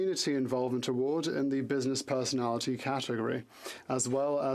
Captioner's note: speaking French